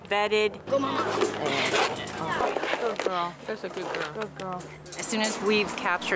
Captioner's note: sounds of vollunteers talking